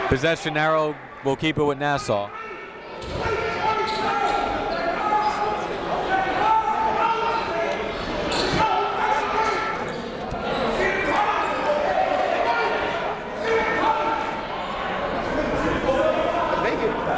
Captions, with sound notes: Possession arrow will keep it Nassau. (crowd talking) (coaches yelling)